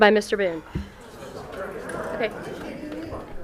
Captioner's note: audience groans